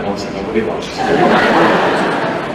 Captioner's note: laughter